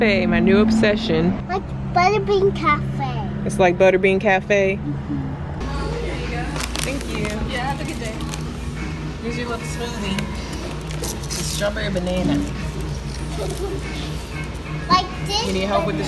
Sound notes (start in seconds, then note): 5.8 store radio humming; 11.6 straw rustling; 13.2 giggles